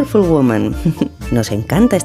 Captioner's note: loving laugh